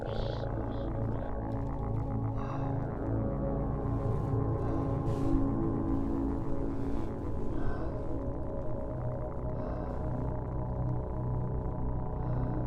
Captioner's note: Wanderer breathing, wondering why the radio stopped talking